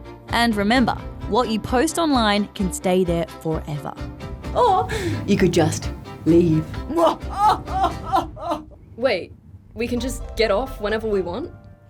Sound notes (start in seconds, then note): 6.9 cackles